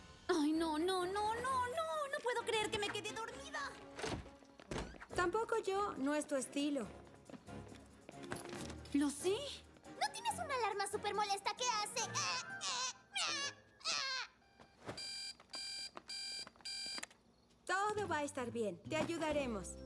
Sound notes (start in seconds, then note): 14.9 buzzing